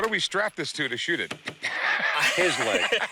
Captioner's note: laughs; laughter